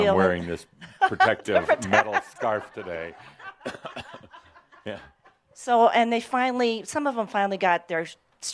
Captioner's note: some chuckles